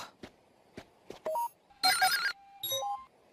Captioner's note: beep Beep; beep